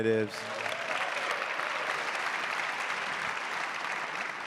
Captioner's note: audience cheering